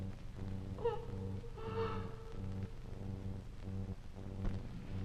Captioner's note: Diane sobbing